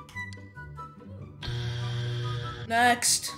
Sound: buzzer

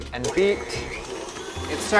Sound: whirring

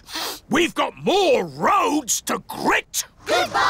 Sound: sniffs

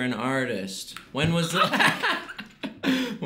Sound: laughing

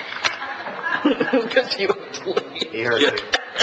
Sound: laughs

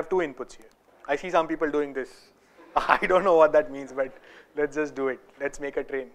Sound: laugher

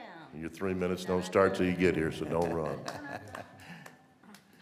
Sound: laughter

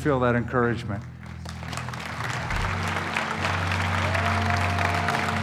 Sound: applause

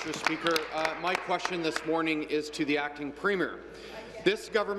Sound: applause

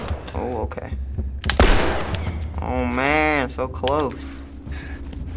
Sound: gunshots; gunshot

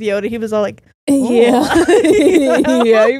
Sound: both laughing

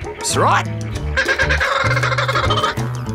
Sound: squawking

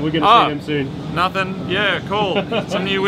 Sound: laughs

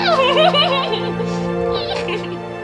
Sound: muffled laughter

